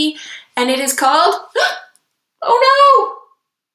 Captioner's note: gasps